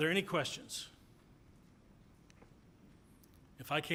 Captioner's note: silence